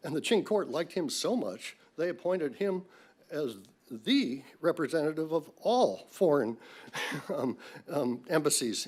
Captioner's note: laughs